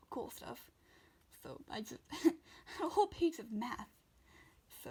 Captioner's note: laughs